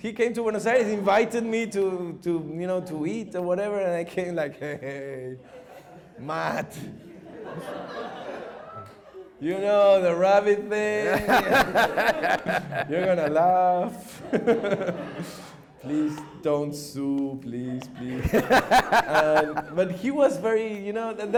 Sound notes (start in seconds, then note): 7.2 audience laughs; 10.9 laughs; 17.7 laughter